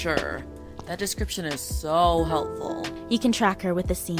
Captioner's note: Sarcastic